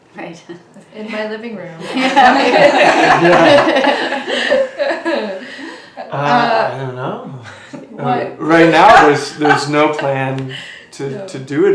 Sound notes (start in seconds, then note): 4.0 laughs